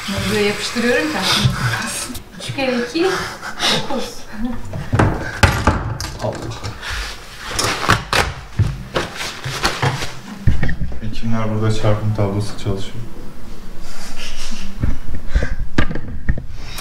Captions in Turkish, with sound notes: (Gülüşmeler) +Hekimler burada çarpım tablosu çalışıyor. (Gülüşmeler)